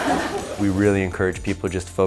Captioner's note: laughing